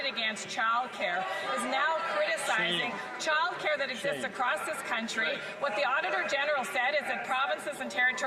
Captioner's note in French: voix de l'interprète